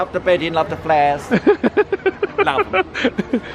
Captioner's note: laughing